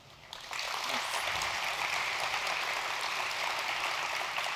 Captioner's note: audience applause